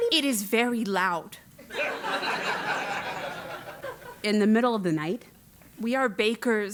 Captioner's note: laugh